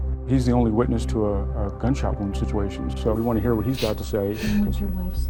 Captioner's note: cries